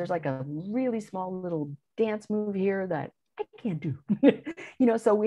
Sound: chuckles

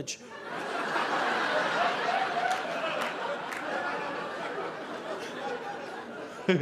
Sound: audience laughing

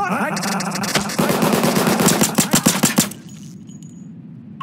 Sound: rapid gun fire

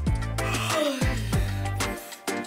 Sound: yawning

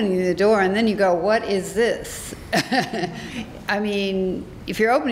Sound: laughs

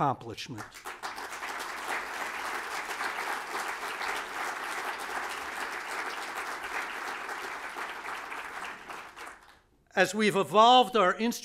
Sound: applause

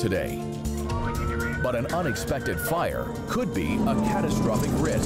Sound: sirens roar

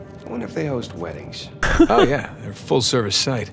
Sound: laughs

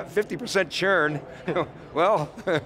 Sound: laughing

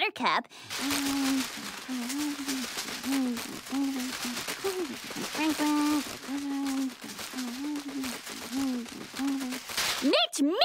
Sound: muttering

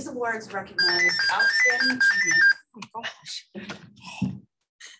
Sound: phone ringing

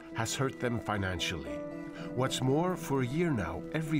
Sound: speaking French

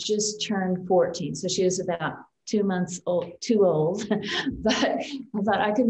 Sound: chuckles

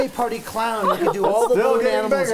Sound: laughter

